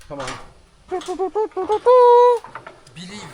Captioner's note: metal clanking